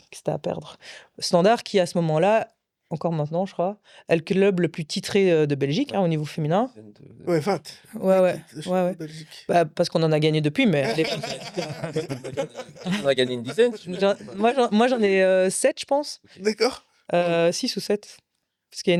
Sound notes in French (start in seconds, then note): 10.8 rires